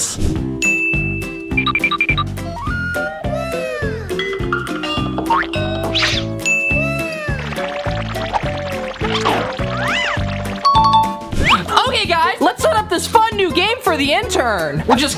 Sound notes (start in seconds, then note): 0.6 ding; 0.8 upbeat music begins; 6.5 ding; 6.6 people cheering